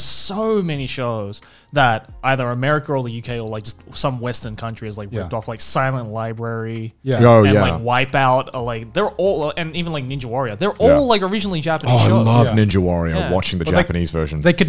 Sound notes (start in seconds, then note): none